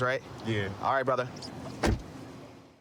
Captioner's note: door shuts